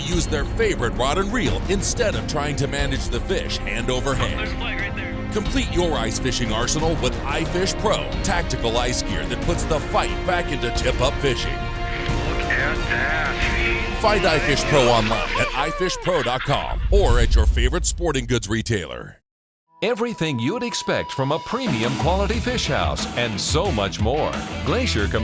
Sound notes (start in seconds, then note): 5.7 voiceover; 12.7 voiceover; 20.1 voiceover